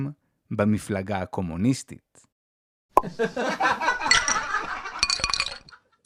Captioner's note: laughter